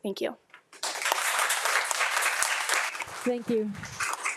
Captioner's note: audience claps